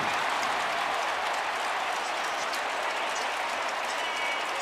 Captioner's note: cheering